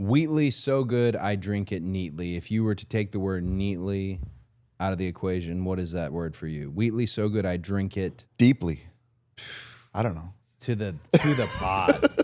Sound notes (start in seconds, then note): 9.4 Cody exhales